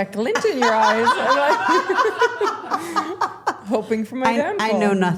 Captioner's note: everyone laughing